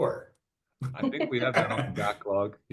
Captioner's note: laughing; chuckles